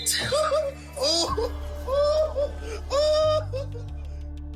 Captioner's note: cameraman laughing